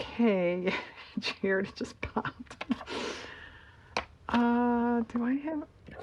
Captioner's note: laughs